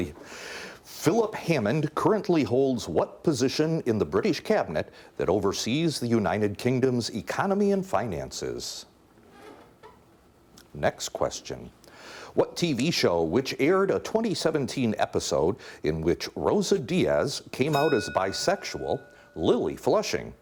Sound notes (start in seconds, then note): 17.6 bell dinging